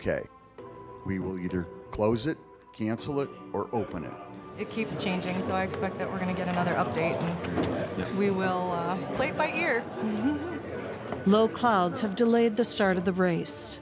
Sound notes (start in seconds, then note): 9.9 laughs